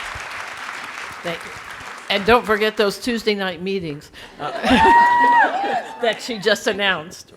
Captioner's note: audience clapping; audience cheering